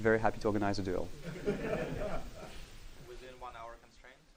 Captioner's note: laughing